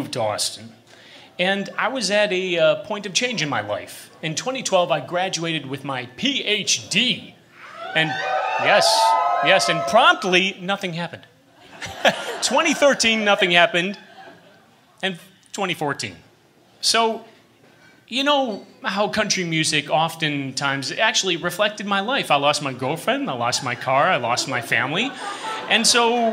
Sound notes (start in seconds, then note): 7.6 cheers; 11.6 laughter